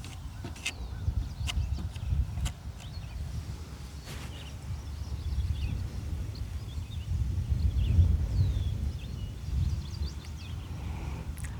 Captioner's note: birds chirping